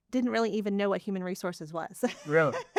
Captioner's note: laughing